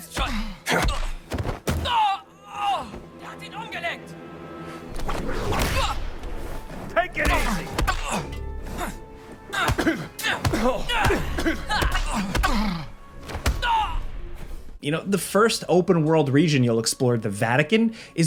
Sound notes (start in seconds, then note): 0.2 enemy groaning; 0.7 fist thumping; 3.4 enemy speaking in foreign language; 5.0 whip whooshing; 7.2 fist thumping; 7.2 enemy groaning; 7.2 enemy groans; 9.5 Indiana groaning; 10.4 fist thumping; 11.6 enemy groaning; 11.6 fist thumping